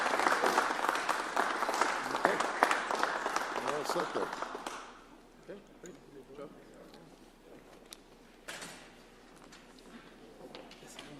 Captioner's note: applause